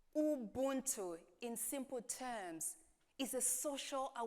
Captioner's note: none